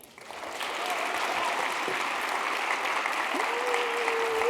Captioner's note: attendees cheering